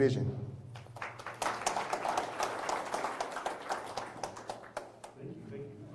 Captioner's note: applause